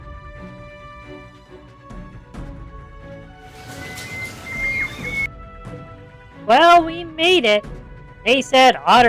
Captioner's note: sarcastically